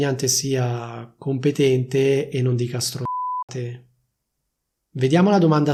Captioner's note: beep